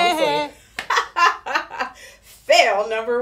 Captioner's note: laughing